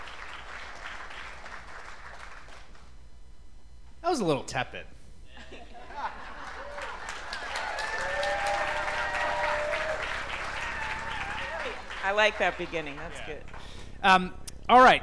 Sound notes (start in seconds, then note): 0.0 applause; 11.4 cheers and applause; 11.4 applause